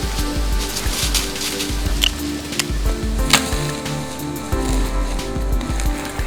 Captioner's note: sound of bowshot; sound of deer running